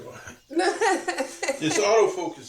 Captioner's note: laughter